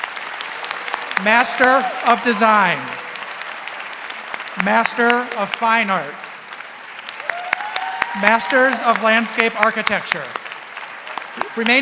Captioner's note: applause